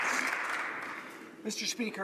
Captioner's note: some Applause